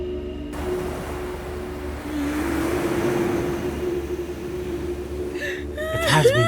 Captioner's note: ethereal music; waves crashing